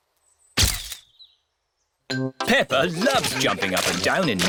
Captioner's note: camera clicks